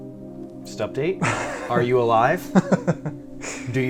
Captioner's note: laughs